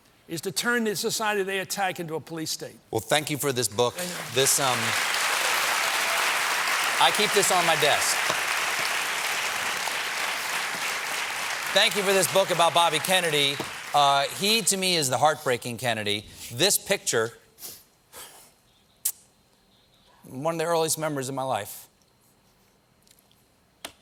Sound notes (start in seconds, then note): 3.9 applause